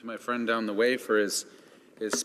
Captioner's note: speaking French